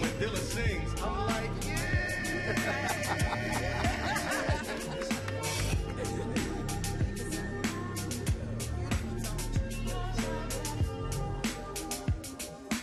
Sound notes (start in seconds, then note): 2.3 laughs; 3.1 upbeat music